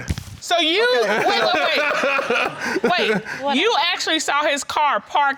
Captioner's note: laughing